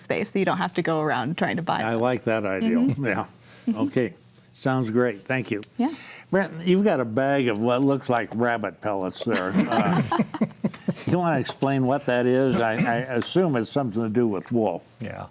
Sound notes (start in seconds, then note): 9.3 panelists laugh